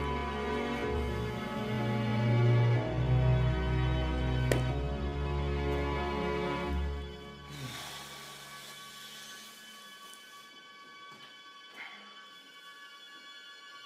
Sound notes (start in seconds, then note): 4.4 book closing; 7.5 sighs